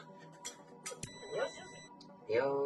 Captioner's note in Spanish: sonido: piiiii